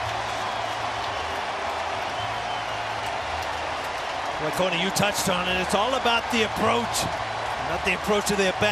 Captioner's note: cheers and applause